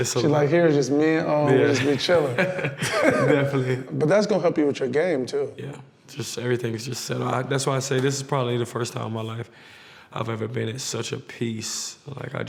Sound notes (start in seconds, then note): 1.6 laughs